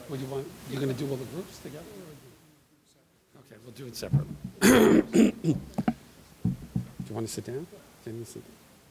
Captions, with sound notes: - Are we gonna do all the groups together? Okay, we'll do it separately. (clears throat) Do you want to sit down?